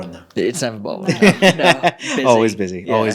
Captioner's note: laughing